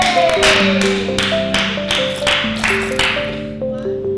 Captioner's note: clapping